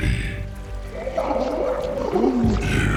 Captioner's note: confused gurgle